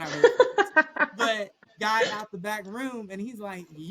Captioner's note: laughter